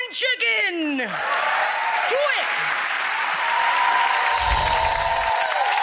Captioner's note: audience applauds